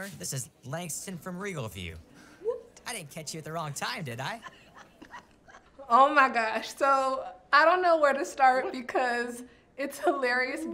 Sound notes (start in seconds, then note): 4.2 laughs